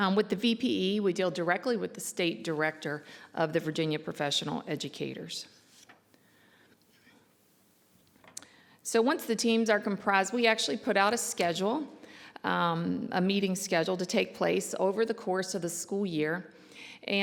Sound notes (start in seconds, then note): none